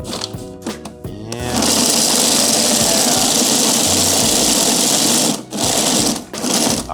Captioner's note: machine buzzing